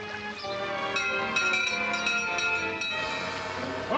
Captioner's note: door bell ringing